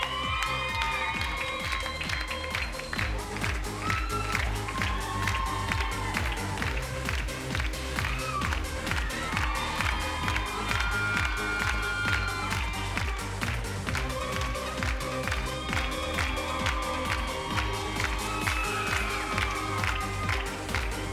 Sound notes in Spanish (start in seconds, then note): 0.3 Palmadas al compás; 8.8 Gritos y exclamaciones; 13.6 Palmadas al compás; 18.9 Gritos y exclamaciones